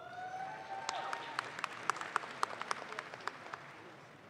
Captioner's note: audience claps